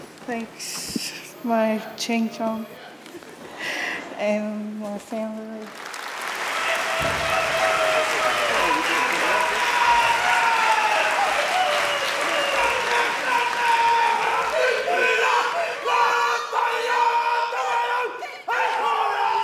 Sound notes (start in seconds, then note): 8.6 a woman and two men cheering in local language